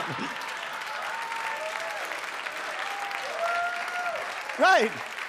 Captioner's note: audience applauds; audience cheers